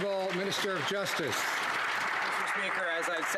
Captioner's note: some Applause